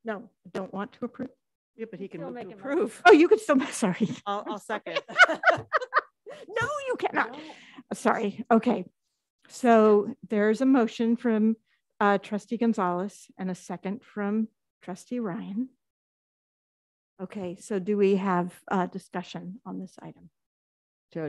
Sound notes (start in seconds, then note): 4.5 trustees laughing; 4.5 laughs